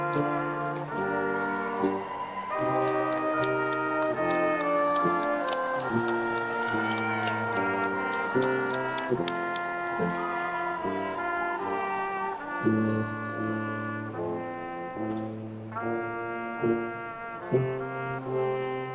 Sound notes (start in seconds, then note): 2.0 attendees cheering and applauding